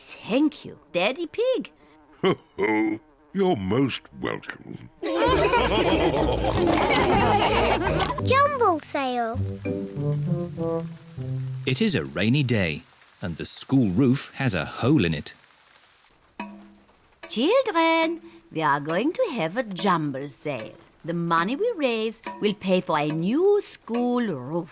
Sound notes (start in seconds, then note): 2.3 chuckles; 5.0 all laughing